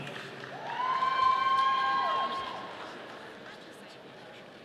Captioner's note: audience cheering